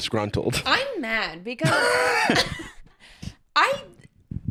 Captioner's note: laughs